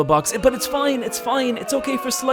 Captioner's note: crowd booing